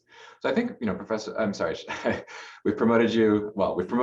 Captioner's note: laughter